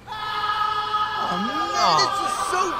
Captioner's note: person screaming